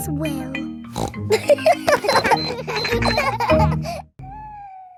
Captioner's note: snorts; kids laughing